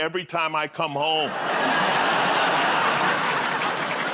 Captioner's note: laughter